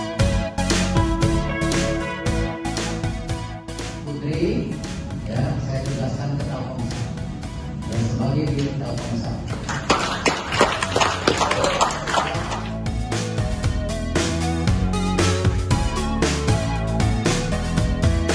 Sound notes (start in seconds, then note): 9.6 applause